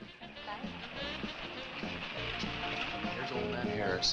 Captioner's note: engine rumbling